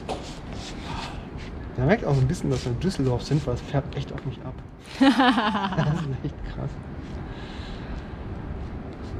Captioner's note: laughs